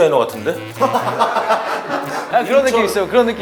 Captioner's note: ha ha ha ha ha